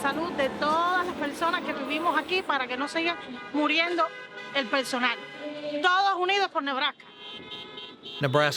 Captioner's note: speaks in Spanish